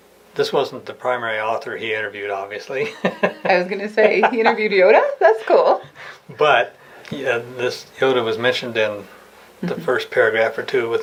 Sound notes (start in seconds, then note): 2.8 laughing